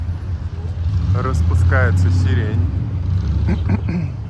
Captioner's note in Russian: откашливается